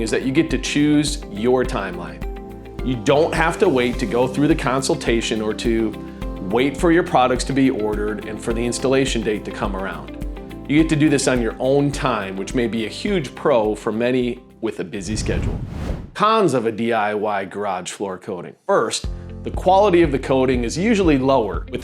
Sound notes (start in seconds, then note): 15.0 video graphics whooshing